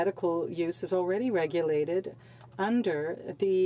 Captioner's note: speaking French